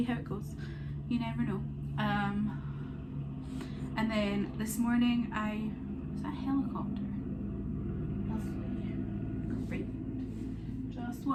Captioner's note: helicopter noises